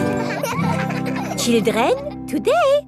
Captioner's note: children laughing